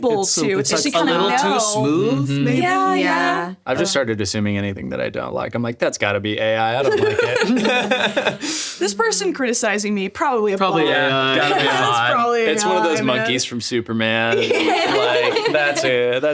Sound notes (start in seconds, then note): 6.8 all laughing; 14.3 laughs